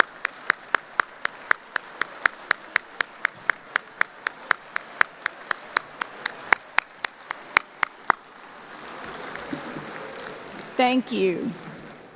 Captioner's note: applause